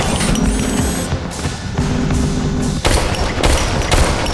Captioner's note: robot whirring